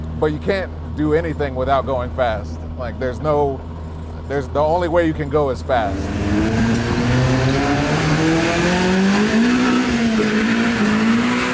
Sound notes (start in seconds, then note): 5.8 engine revving